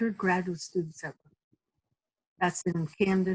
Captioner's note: audio cuts out